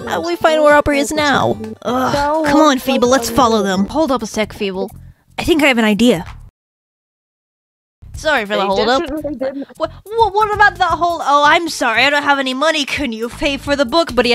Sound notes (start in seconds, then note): 1.8 sigh